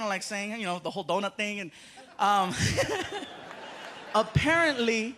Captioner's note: laughs